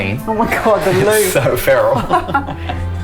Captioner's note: laughs